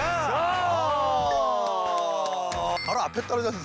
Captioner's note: clapping